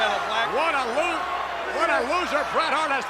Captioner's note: audience jeers